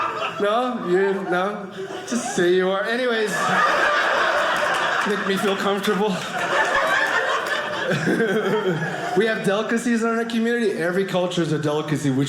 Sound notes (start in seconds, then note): 7.0 audience laughing